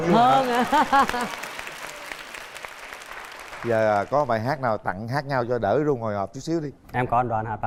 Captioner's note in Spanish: Aplaudir